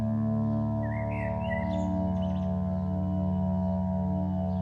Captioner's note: birds chirping